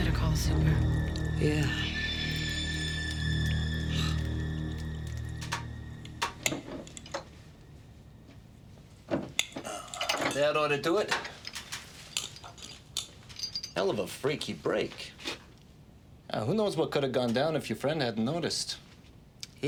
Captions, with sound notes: - You better call the super. - Yeah. (Nora scoffs) - That oughta do it. Hell of a freaky break. Who knows what could've gone down if your friend hadn't noticed.